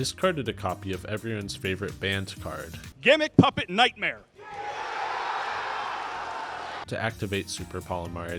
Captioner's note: wild cheering